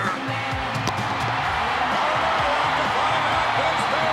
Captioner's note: audience cheering